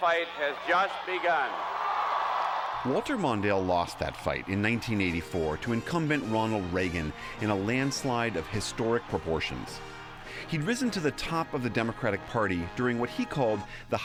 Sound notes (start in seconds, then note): 1.3 cheering and applause